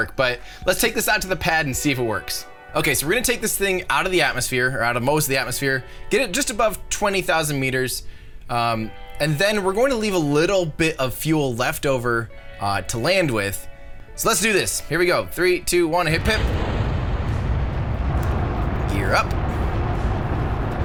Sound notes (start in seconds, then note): 16.2 engine roars